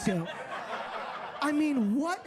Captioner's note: audience laughs